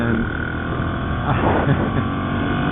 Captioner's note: laughs